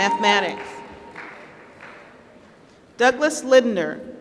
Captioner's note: applause